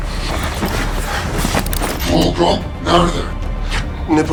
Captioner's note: gun cocks